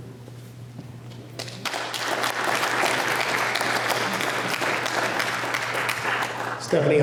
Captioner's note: applause